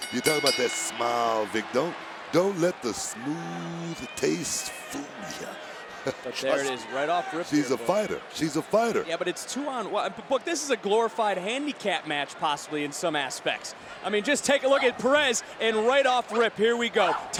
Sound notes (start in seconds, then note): 5.6 chuckling